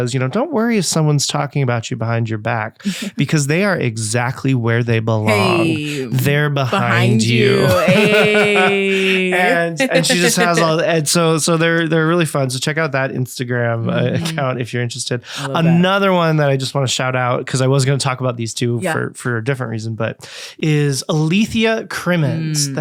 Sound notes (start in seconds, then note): 6.7 both laughing